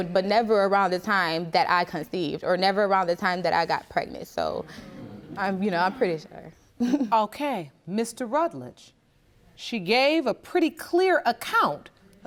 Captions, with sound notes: but never around the time that I conceived. Or never around the time that I got pregnant. So, you know, I'm pretty sure. (CHUCKLES) Okay. Mr. Rutledge, she gave a pretty clear account